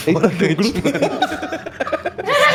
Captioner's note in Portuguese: Risadas